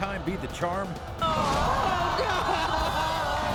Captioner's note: audience vocalizing